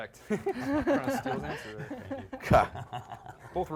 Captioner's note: laughing